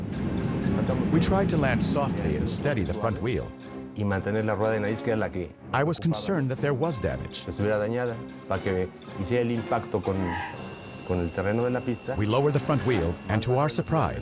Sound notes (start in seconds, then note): 9.0 wheels squeal